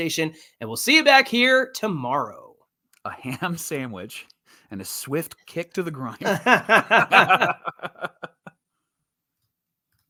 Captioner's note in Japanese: 笑い